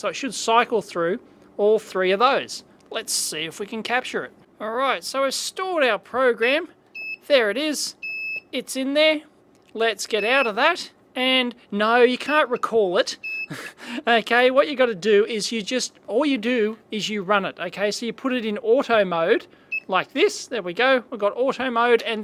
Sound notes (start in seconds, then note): 3.3 beeps; 6.4 beep; 16.6 beep